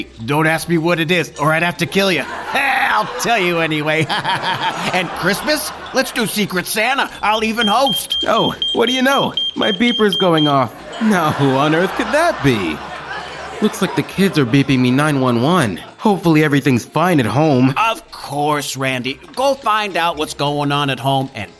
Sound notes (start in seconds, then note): 4.3 laughs; 8.2 Randy's pager beeps